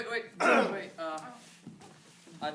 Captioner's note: clears throat